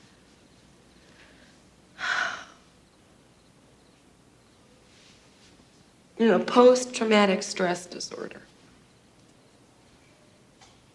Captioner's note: sighs